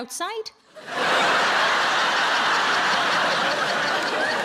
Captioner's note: audience laughing